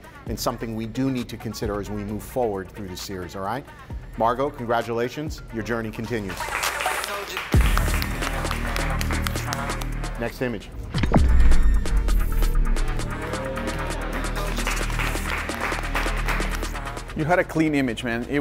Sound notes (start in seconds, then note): 6.2 competitors clapping; 16.2 competitors clapping